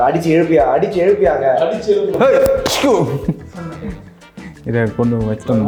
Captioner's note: hitting noises